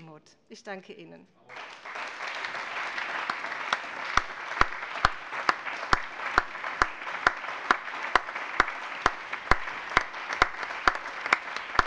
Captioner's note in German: Anhaltender allgemeiner Beifall